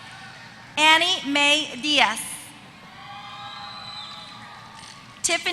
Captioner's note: applause